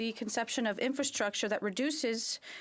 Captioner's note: speaking French